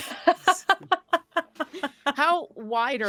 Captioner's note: Deborah laughs